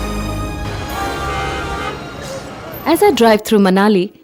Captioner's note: car engine revving; cars horn honking